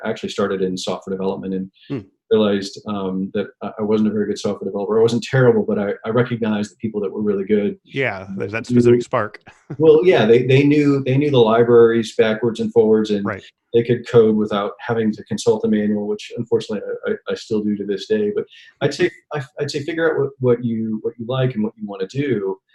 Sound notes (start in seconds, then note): 7.9 laughing